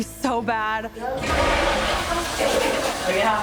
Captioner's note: toilet flushes